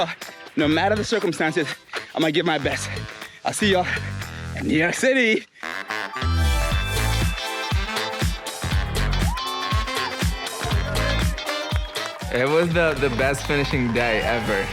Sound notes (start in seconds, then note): 5.7 upbeat music; 10.0 spectators cheering